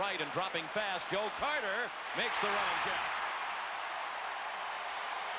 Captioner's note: applause